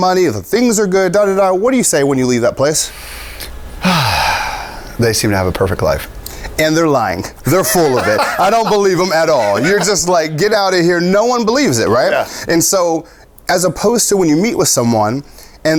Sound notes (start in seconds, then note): 3.8 sigh; 7.5 laughs